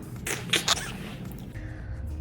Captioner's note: smacks lips